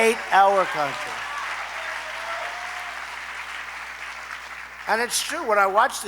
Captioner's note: applause